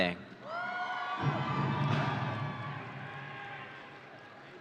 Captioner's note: audience cheering